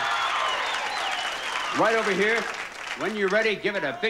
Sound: audience applauding

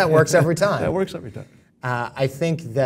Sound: laugh

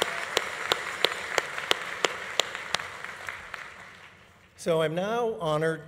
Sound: audience applause continues

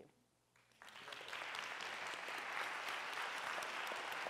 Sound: applause

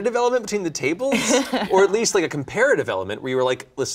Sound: laughing

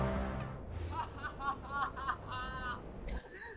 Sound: laughing manically

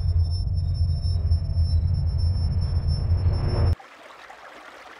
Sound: plane whirring

